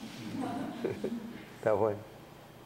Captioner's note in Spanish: risas